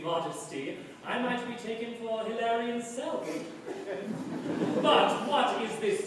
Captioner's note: laughter